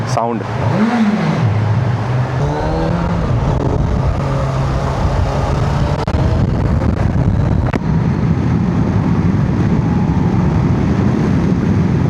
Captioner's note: engine thrumming